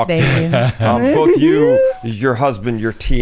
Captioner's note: trilling tongue; laughs